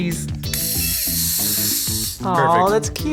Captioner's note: camera whirs